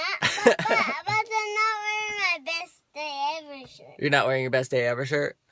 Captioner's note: laughing